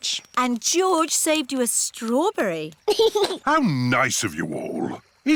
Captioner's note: giggles